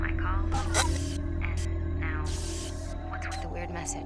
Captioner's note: electricity crackling